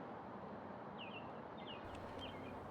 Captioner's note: birds chirping